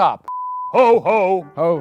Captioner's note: beep